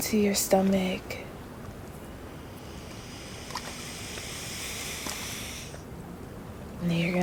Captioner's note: breathes in with more power